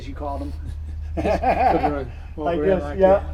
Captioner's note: laughing